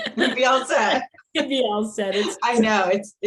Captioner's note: laughs happily